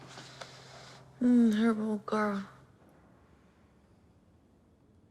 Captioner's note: muttering sleepily